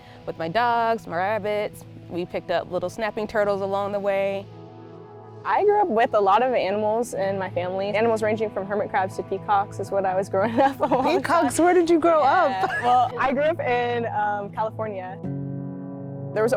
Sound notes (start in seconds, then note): 12.4 laughs; 15.3 gentle guitar music